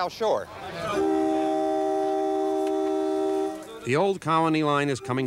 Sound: train honking

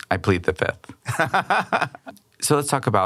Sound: laughing

